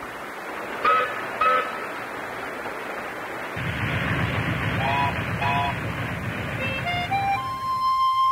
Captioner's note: steamboat sounds